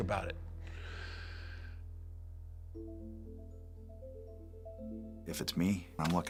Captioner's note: Undertaker inhales deeply